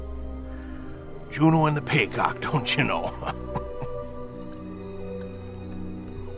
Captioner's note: chuckling